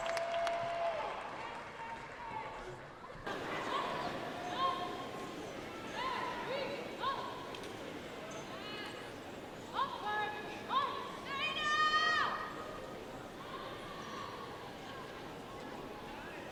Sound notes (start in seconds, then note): 0.0 audience cheers and applauds; 3.3 audience faintly shouting; 7.3 faintly shouts; 11.6 audience member faintly shouts